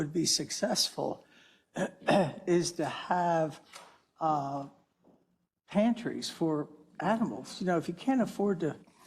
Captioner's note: cough